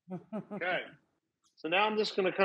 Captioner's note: Rachael laughs